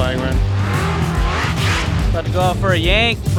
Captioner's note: engine revving